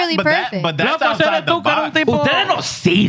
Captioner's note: speaking Foreign Language